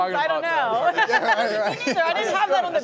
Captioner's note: laughter